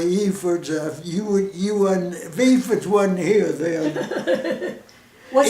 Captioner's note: woman laughs